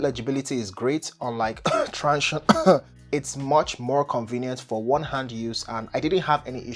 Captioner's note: coughs